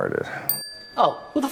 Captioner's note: bell rings